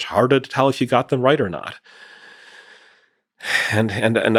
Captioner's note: sighs